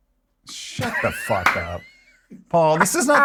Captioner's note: laughs